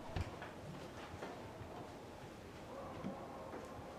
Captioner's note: footsteps cease